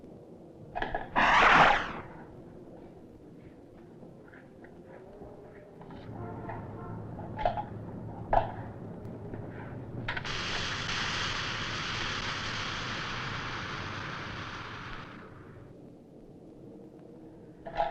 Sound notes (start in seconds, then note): 1.1 air whooshes